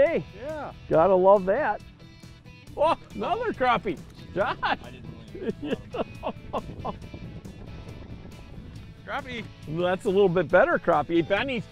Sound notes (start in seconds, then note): 4.3 laughs